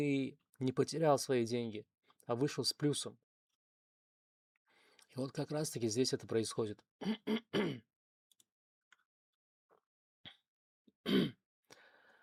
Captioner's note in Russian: кашель; откашливается